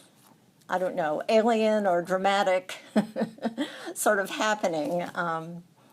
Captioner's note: laughs